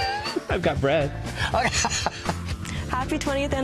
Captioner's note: laughter